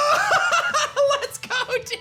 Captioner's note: laughs